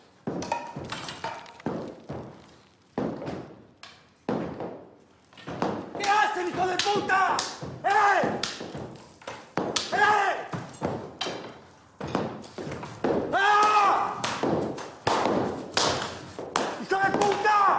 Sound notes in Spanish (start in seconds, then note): 13.3 grita